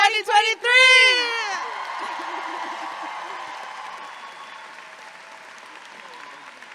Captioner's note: audience applauding and cheering